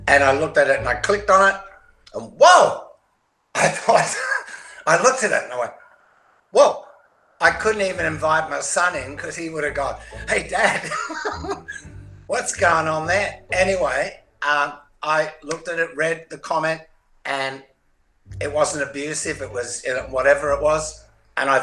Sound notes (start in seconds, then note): 3.6 chuckles; 10.5 chuckles